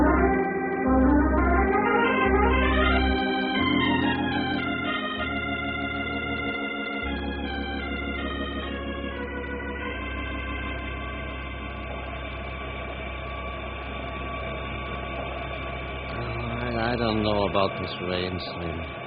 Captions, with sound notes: [sirens] I don't know about this rain, Slim.